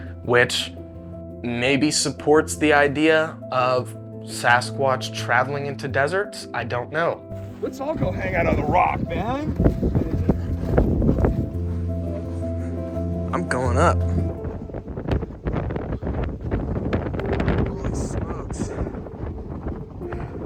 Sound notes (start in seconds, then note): 14.7 wind blowing